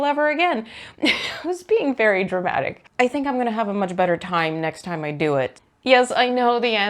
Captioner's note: laughs